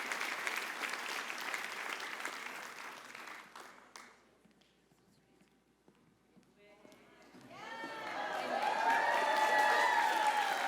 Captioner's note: applause